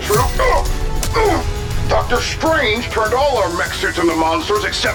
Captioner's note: grunts